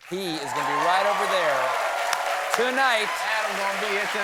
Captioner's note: cheers and applause